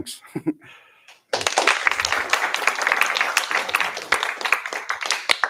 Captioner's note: applause